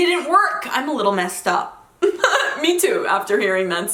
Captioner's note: laughs